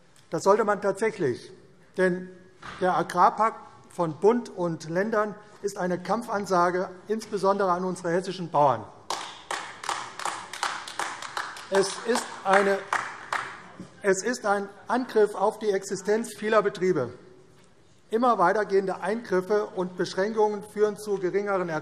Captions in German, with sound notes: Das sollte man tatsächlich; denn der Agrarpakt von Bund und Ländern ist eine Kampfansage insbesondere an unsere hessischen Bauern. [Beifall AfD] Es ist ein Angriff auf die Existenz vieler Betriebe. Immer weiter gehende Eingriffe und Beschränkungen führen zu geringeren